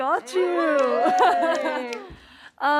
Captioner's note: cheering and laughter